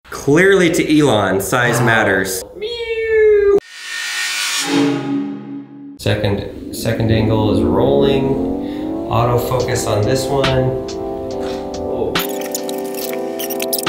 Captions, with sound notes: - Clearly to Elon, size matters. (meowing) (whooshing) Second angle is rolling. Auto focus on this one. (slow music)